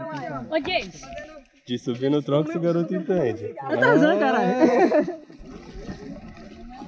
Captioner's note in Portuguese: risos